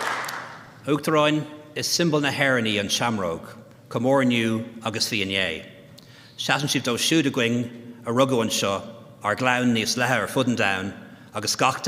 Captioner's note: applause; speaking Gaelic